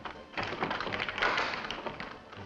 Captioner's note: door closing & locking